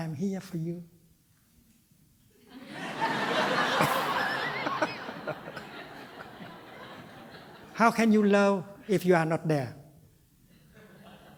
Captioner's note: laughter